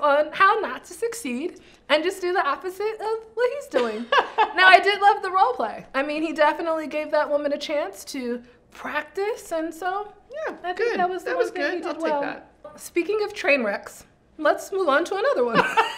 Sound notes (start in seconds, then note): 3.7 laughs; 15.5 both laugh